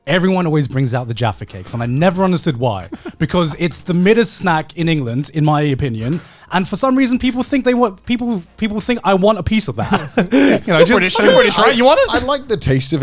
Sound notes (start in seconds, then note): 9.8 laughs